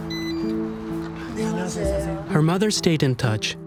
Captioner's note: both greeting in Korean